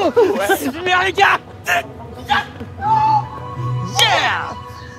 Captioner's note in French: cris de joie